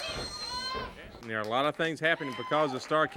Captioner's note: crowd chatter